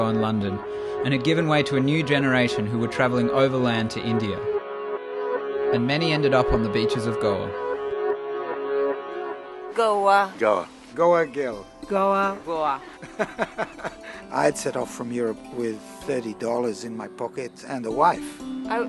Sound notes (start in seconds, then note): 12.7 laughs